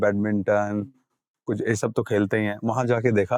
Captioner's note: speaking in Hindi